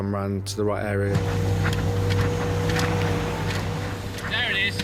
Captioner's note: lifeboat vrooming